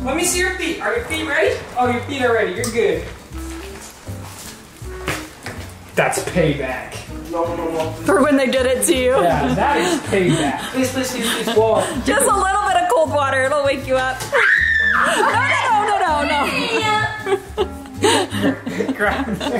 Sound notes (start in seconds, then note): 14.3 screams; 15.0 laughs